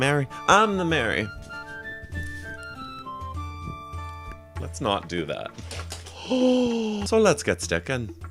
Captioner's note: gasp